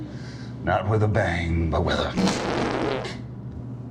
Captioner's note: farts